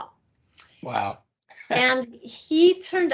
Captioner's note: laughing